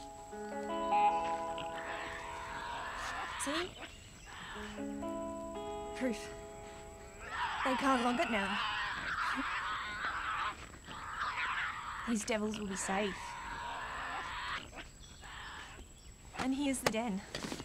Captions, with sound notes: (Tasmanian devil shrieking) - See? Proof, they can't log it now. These devils will be safe. And here's the den.